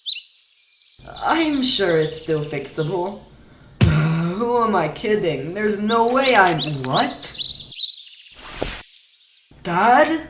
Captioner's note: sigh